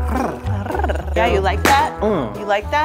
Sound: purring

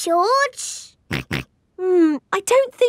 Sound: snorts

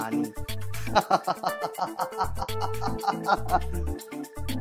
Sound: laughing

